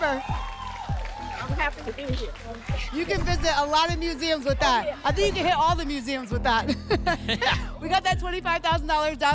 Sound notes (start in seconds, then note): 0.0 applause and cheering; 6.6 laughter